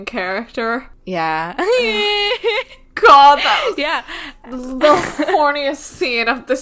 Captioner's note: makes pained sound